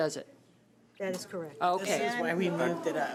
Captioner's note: overlapping chattering